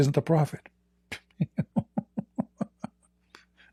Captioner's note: Ketawa